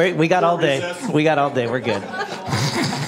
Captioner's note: laughter